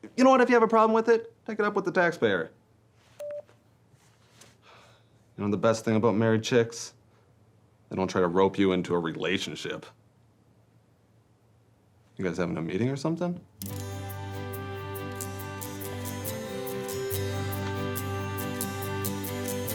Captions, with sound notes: You know what, if you have a problem with it, take it up with The Taxpayer. (telephone beeps) (sighs) You know the best thing about married chicks? They don't try to rope you into a relationship. You guys having a meeting or something? (romantic music)